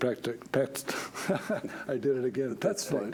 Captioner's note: laughs